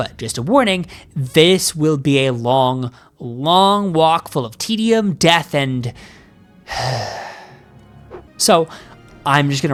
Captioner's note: sigh